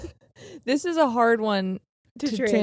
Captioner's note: chuckling